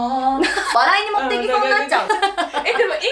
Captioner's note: laughs